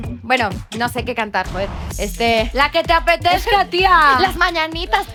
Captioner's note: in a spanish accent